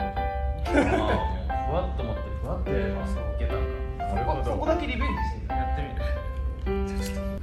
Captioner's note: laughs